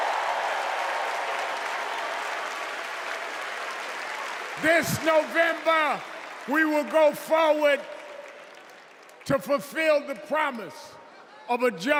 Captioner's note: cheers and applause